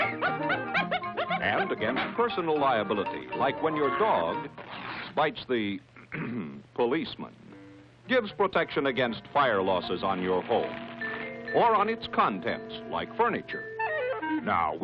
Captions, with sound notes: [barking] - And against personal liability, like when your dog bites the-- [clears throat] policeman. Gives protection against fire losses on your home, or on its contents, like furniture.